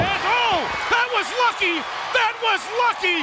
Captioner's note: audience cheers